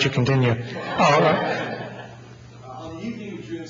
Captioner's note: audience laughing